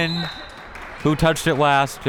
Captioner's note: whistle tweeting